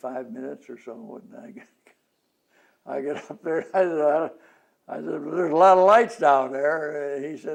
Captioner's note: laughs